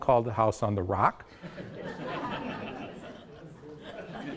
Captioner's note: audience laughs